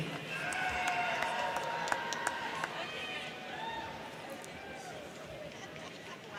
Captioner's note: crowd clapping; crowd cheering